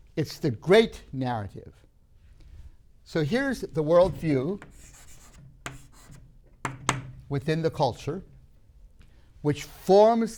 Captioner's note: chalk writing